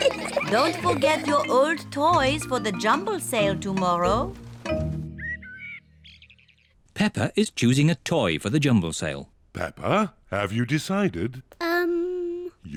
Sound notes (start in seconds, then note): 5.1 birds chirping